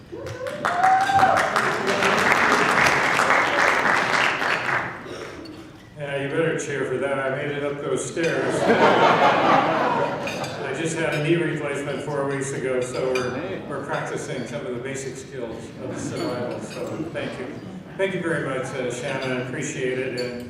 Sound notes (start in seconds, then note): 0.0 cheering; 8.6 laughing